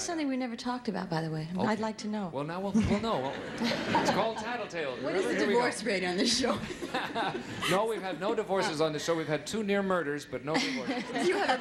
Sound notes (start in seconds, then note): 3.1 audience laughing; 6.4 laughing